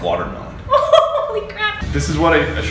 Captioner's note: laughs